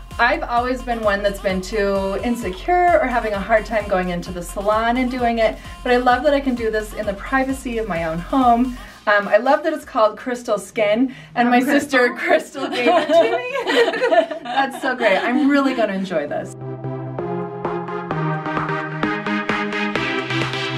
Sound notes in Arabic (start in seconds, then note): 12.5 يضحكان; 16.5 تتواصل موسيقى تكنو المبهجة